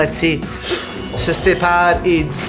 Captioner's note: blade strike